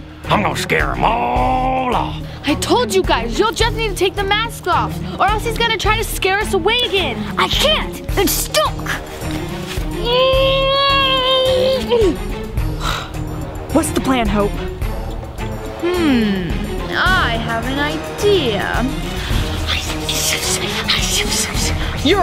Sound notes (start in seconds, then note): 10.1 grunts loudly; 12.6 sighs loudly; 19.6 loud whispering